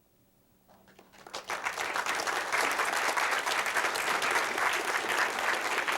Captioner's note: applause